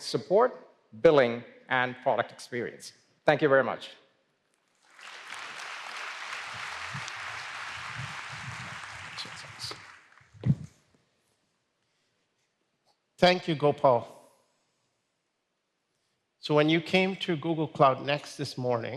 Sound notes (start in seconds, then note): 4.8 applause